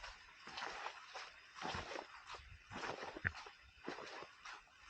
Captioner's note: heavy, muddy footsteps